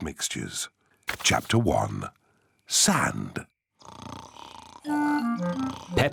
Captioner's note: snoring